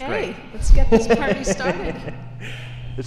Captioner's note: laughs